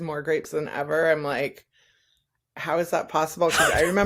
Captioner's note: breathy laughter